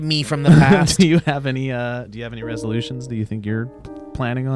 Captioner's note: laughs